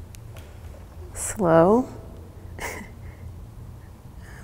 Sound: chuckles

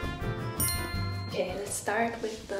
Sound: bell chimes

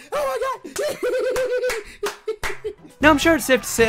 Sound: laughing and clapping

